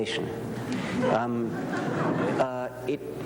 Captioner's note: laughter